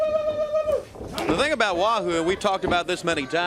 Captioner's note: crowd chatter